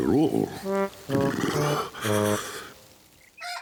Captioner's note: shivering